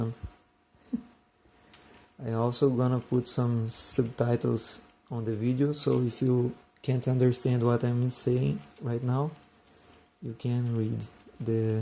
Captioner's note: laughs